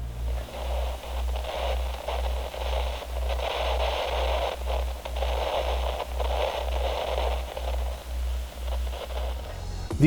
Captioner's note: radio static noise